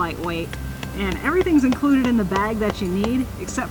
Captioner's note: hammering noises